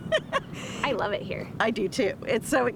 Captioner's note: laughter